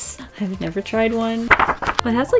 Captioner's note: paper wobbles